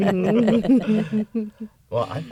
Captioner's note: laughter